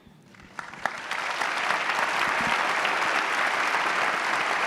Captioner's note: audience clapping